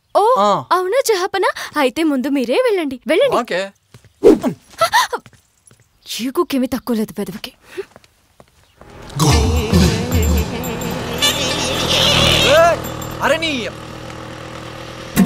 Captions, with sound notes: Oh. Is that so? Then you can go ahead. Go on. Okay. (Gasps) He and his big ego. Rascal. Hey! You idiot!